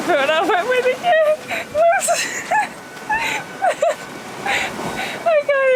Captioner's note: laughter